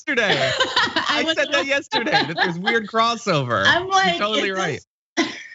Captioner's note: laugh